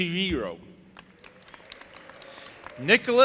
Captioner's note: audience applauding